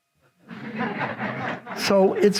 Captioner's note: audience laughs